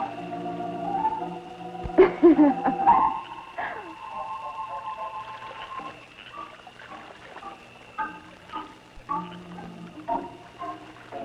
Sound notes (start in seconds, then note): 1.9 witch laughing; 5.8 stirring music